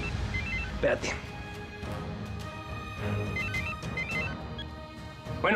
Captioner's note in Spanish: suena el teléfono